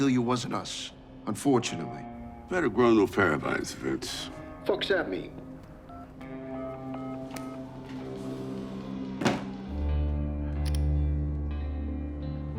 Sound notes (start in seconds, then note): 5.8 telephone beeping